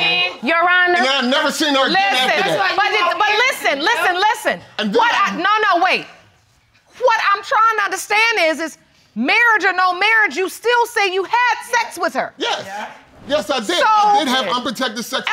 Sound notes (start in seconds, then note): none